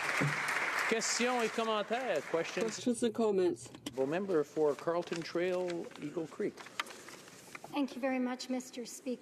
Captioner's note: applause